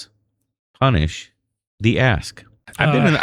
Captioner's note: uh